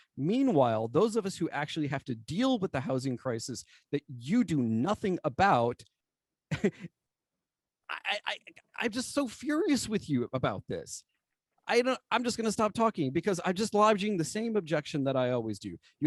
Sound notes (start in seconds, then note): 6.4 laughter